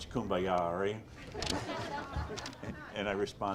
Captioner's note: audience laughs